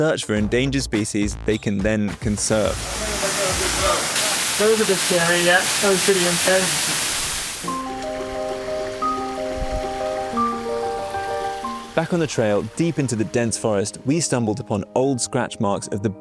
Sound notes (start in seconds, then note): 3.2 water gushing; 7.6 gentle bright music; 7.8 water lapping